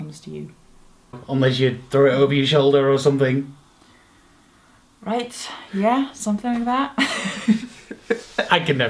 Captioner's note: chuckles